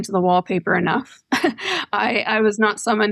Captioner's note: laughter